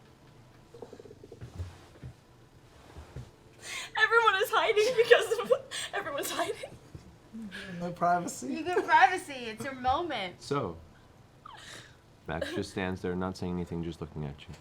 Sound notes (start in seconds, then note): 0.0 long pause; 4.3 giggling